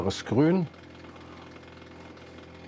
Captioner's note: rattling